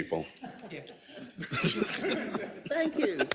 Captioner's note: laugh